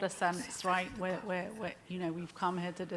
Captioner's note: speaking faintly